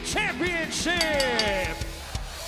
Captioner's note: bell ringing